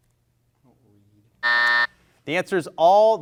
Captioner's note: buzzer rings